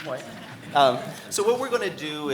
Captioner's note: audience chuckling